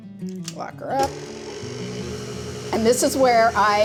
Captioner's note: mixer revving